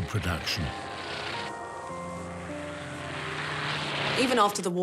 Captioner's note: propeller-driven aircraft engine